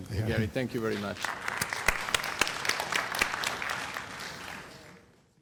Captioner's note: applause